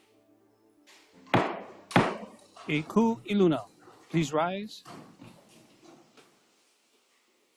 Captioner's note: gavel bangs twice